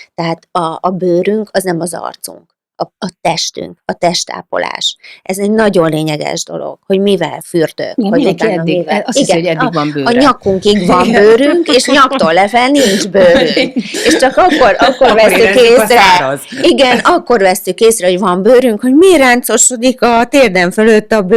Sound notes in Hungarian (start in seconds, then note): 12.8 nevetés